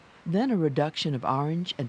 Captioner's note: voiceover